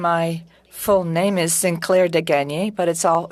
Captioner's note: speaking French